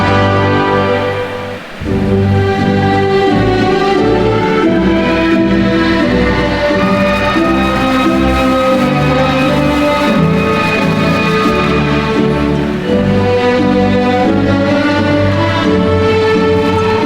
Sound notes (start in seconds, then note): 2.1 attendees cheering; 2.1 ceremonious music